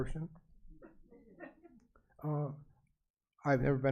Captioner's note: audience chuckles